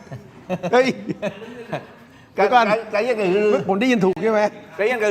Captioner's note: laughter